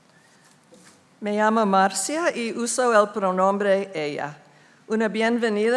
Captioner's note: speaking in foreign language